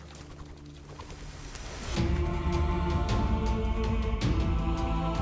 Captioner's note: humming